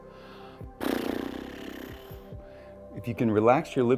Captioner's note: pfffft